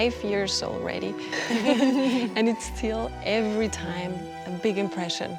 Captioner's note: laughter